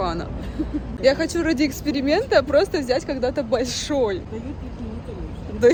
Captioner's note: laugh